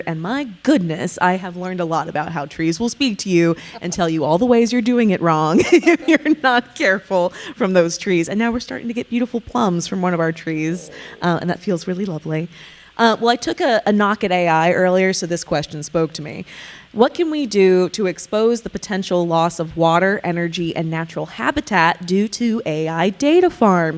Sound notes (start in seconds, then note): 3.4 laughing; 5.3 chuckling